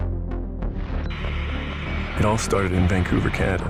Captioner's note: static noise